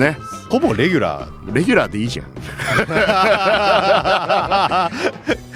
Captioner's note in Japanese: 笑い